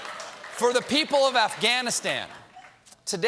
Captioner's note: laughter